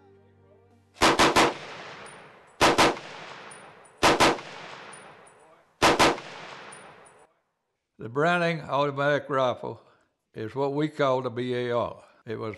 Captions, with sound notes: (gun firing) The Browning Automatic Rifle, is what we call the B.A.R.